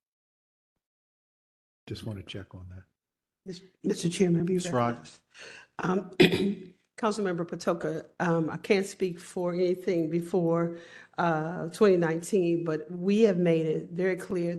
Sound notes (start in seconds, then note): 6.1 cough